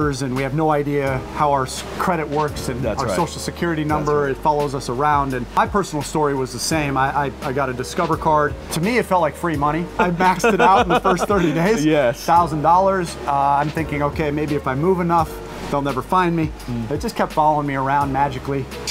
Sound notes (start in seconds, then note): 9.9 laughing